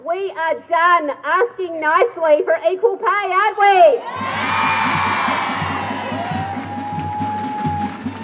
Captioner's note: applause